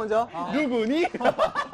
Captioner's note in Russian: смех